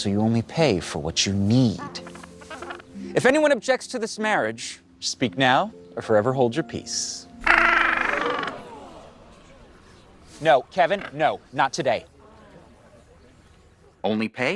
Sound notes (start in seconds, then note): 1.9 emu squawks; 7.4 emu squawks; 10.7 the crowd gasps